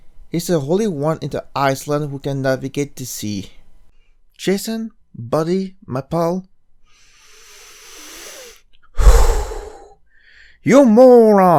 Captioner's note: deep breath